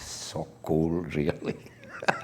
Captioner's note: laughter